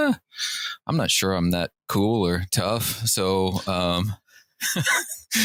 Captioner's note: laughter